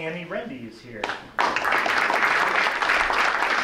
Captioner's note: clapping